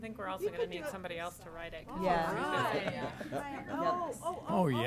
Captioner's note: board members chattering